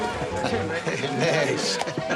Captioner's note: laughs